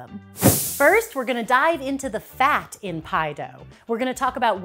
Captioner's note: puff of air